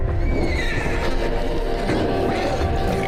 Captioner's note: bird squawking